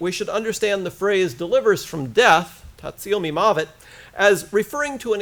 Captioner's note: foreign language